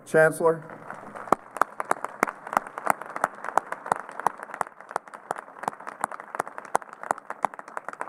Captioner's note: applause